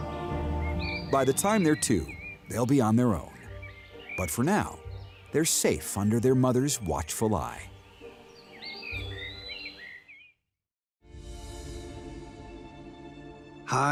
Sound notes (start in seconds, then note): 8.6 birdsong; 11.1 suspenseful music